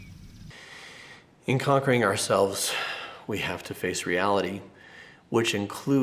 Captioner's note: sighs